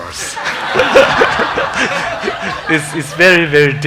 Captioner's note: congregation laughing